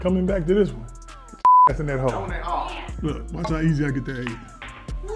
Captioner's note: beep